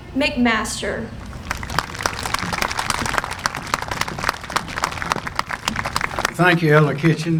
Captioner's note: applause